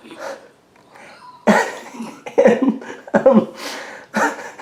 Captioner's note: laughs